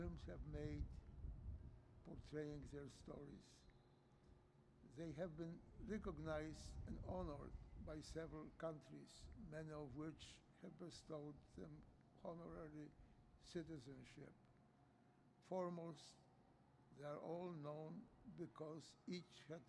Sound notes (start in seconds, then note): none